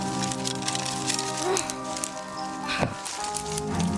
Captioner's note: grunting